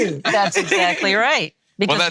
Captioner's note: laughing